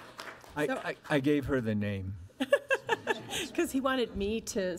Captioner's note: audience applauds; audience laughs